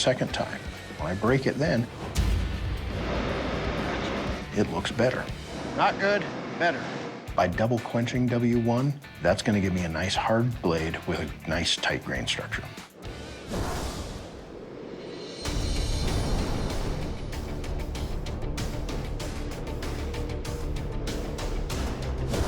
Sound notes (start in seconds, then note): 12.9 sizzling